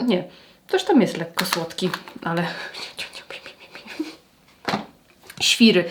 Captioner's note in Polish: śmiech